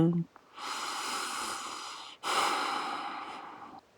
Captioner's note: deep breath